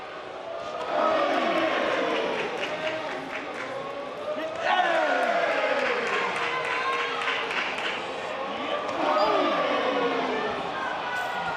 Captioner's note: audience cheering